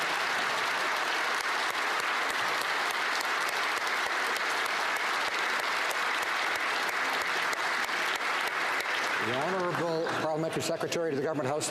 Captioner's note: applause